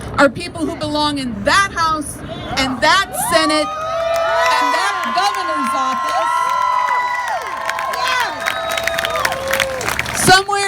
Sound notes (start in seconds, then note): 3.8 crowd cheers; 6.8 crowd claps and cheers